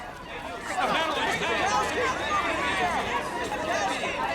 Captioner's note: all speaking excitedly